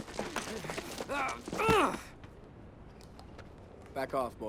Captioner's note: Cruiser groans